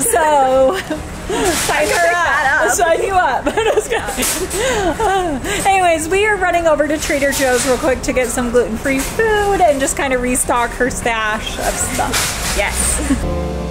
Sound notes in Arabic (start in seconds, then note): 1.2 كلاهما يضحك; 3.3 كلاهما يضحك; 13.2 موسيقى رقص إلكترونية